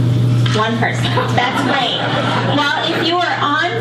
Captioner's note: audience laughs